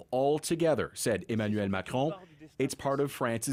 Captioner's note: speaking French